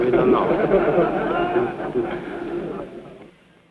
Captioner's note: laughing